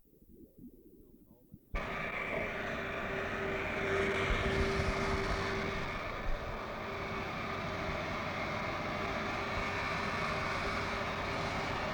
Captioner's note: silence; airplane engine noise